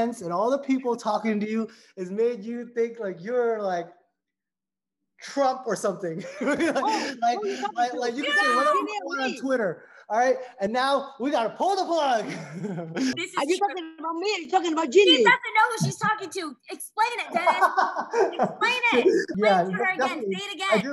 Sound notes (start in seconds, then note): 6.1 laughs heartily; 12.2 laughs; 19.5 laughs loudly